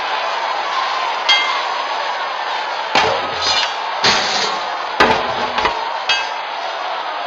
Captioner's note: crowd cheering; swords clanking